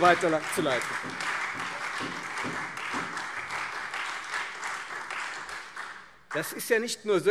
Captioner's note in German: Beifall Freie Demokraten und SPD